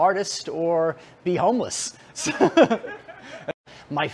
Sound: Rires

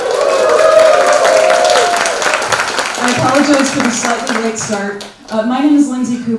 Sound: applause

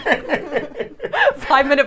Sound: laughing

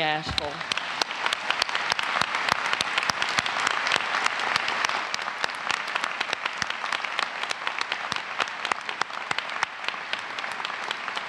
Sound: applause

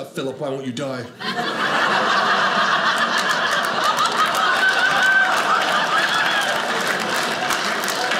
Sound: audience laughing

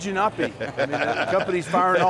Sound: laughing

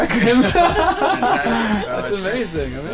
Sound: laughs

